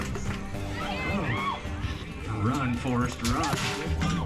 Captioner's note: crowd cheers; iron clangs